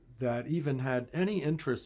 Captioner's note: none